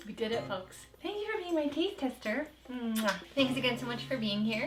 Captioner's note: kisses